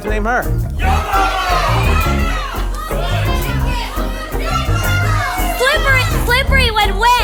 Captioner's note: audience shouts different names